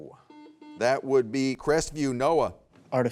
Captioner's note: buzzer beeps